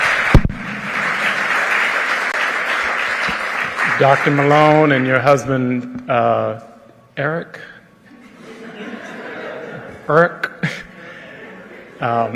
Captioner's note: cheering and applause